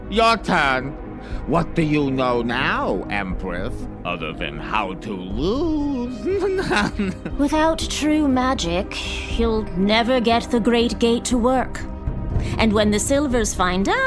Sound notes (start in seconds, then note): 6.2 snickers